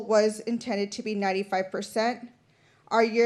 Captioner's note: none